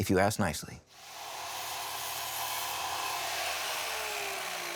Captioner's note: saw whirring